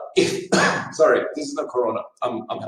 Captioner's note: dry cough